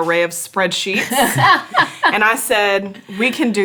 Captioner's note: laughs